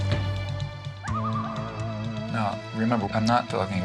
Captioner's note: people hooting; somber music; loon calling